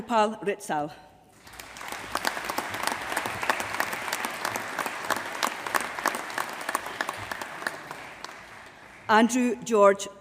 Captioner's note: applause